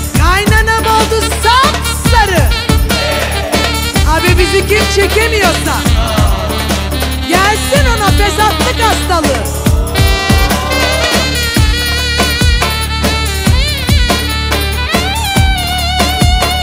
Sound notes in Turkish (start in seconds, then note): 9.3 Ohh